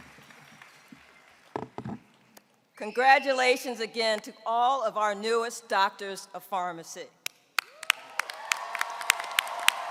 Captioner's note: applause